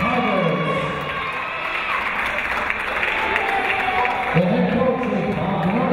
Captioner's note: cheering; clapping